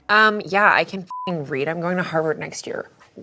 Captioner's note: beep